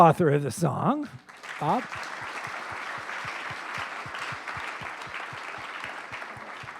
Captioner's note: applause